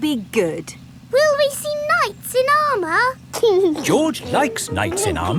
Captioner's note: giggling